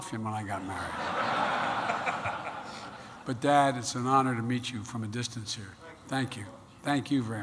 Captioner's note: laughter